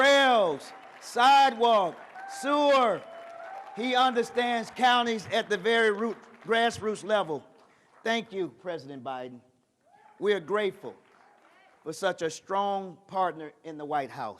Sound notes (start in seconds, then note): 0.0 cheers and applause